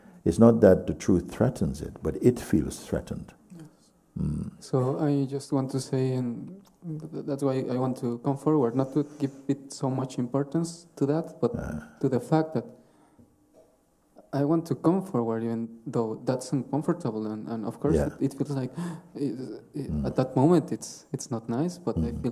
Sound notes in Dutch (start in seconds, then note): 18.8 hapt naar lucht